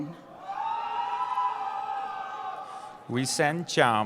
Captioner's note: cheering